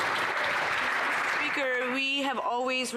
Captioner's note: some Applause